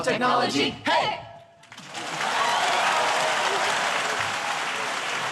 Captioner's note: applause